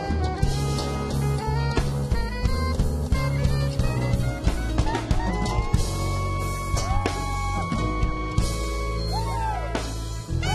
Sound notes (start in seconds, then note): 6.8 man cheers